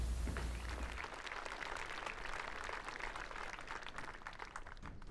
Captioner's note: audience applauding